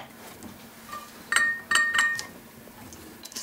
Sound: short metallic tapping

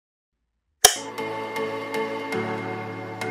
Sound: light click, music playing

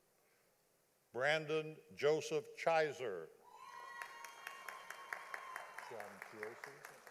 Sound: audience applauding

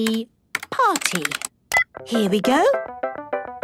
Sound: beep

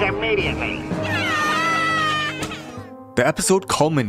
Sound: screaming

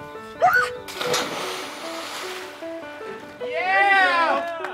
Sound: screams; cheering

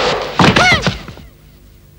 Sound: groans

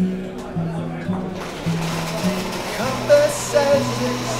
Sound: acoustic guitar music; crowd

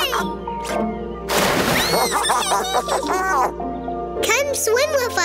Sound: splash; giggling

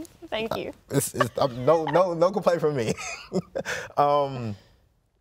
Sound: laughs

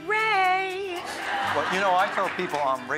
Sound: audience laughs

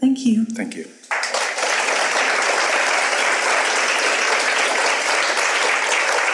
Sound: audience applauds

